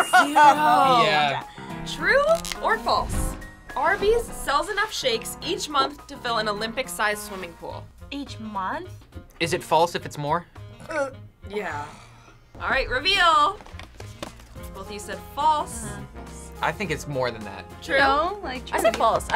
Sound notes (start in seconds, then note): 10.7 belching